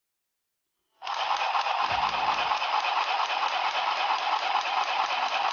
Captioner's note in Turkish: dikiş makinesı sesi